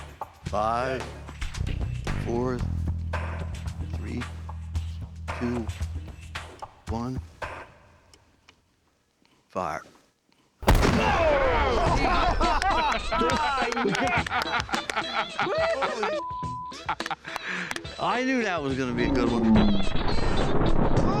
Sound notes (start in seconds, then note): 10.6 artillery fire; 11.6 laughter; 12.4 clapping; 19.5 artillery fire